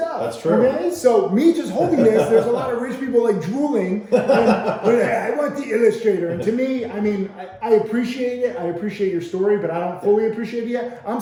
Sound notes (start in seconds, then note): 1.5 laughing